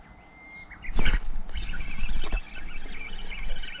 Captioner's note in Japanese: フッキングする音